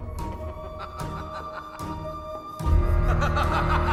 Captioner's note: suara tertawa